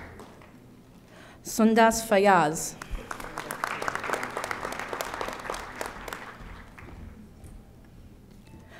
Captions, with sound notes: Sundas Fayyaz. (audience applauding)